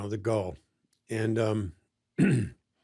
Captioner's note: clears throat